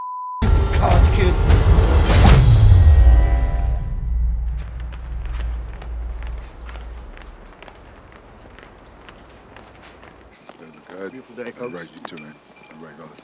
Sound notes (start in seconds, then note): 1.2 punch thudding over tense electronic swell; 3.8 footsteps crunching